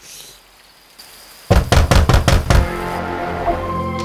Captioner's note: knocking on the window pane